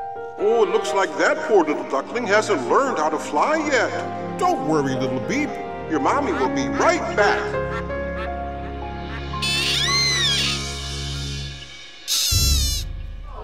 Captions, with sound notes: Oh, It looks like that poor little duckling hasn't learned how to fly yet. Don't worry, little beak, your mommy will be right back. [quacking] [sighing]